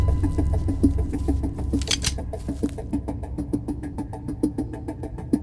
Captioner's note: intense music; hammer clicks